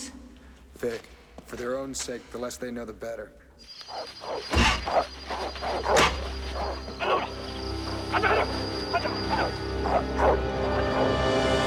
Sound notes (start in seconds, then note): 3.6 dogs Barking; 6.9 Shouting In Korean; 6.9 barking Continues